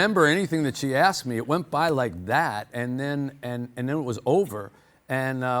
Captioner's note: snaps